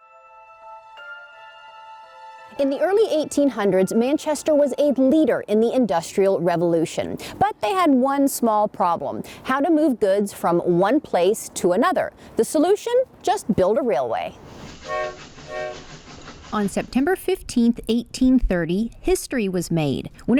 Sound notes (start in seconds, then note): 0.0 soft music; 14.8 railway hooting